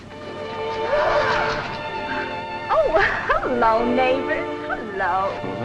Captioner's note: gasping